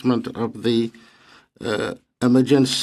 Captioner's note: speaking French